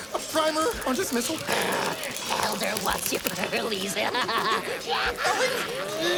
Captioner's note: snarls